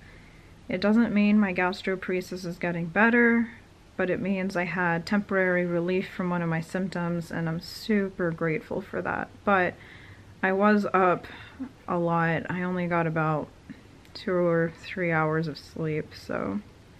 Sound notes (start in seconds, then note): none